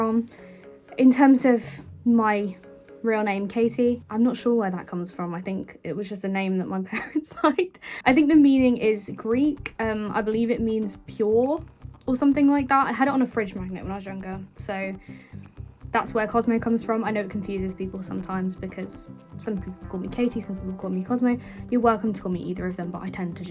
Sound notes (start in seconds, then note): 7.8 laughing